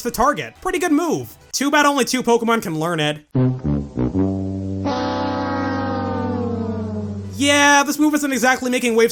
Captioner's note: price is right losing horn